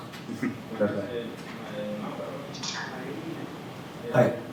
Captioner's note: laughs